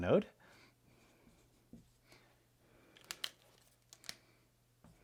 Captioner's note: pen scratching